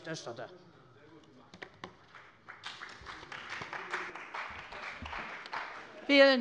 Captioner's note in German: Beifall bei der CDU und dem BÜNDNIS 90/DIE GRÜNEN